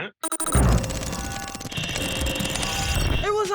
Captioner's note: electronic chirping